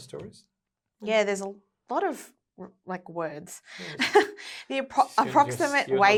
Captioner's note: laughing